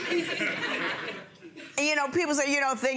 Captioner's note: audience laughing